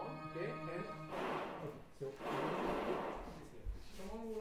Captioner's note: whooshing sound playing